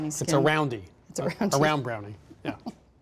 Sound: laughs

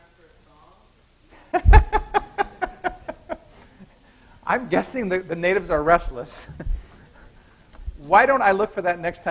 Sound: laughs

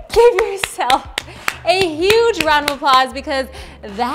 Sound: clapping

